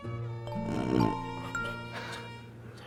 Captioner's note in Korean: 크어엉